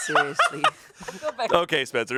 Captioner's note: everyone laughs